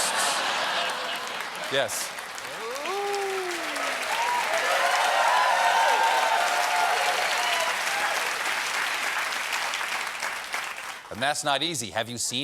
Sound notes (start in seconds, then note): 7.4 applause; 7.4 cheers and applause